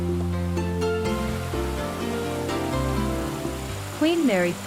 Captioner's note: waterfall sound